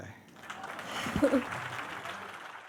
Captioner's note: applause